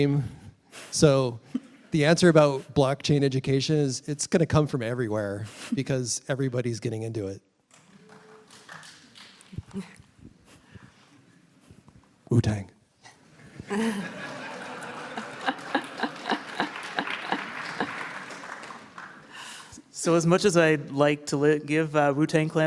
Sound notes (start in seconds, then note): 7.8 light applause; 10.9 whispered; 13.6 laughter; 13.8 applause